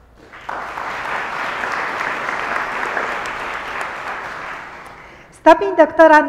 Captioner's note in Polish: oklaski